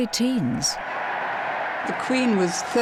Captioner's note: crowd cheering